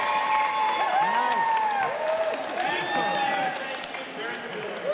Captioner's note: audience cheering